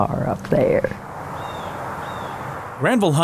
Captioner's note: birds chirping